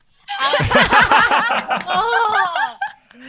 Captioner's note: laughing